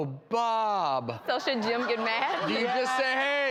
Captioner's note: audience laughing